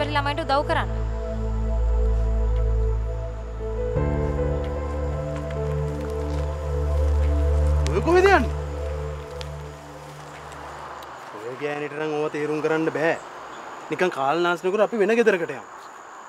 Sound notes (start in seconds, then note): 5.5 walking